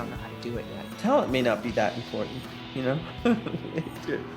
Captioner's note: chuckles